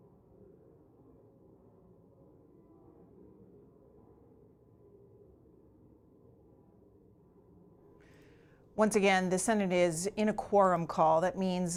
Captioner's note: silence